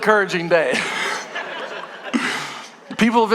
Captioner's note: congregation laughing